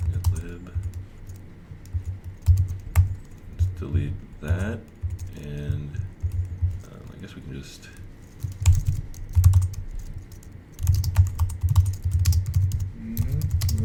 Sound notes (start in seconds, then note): 8.3 typing keys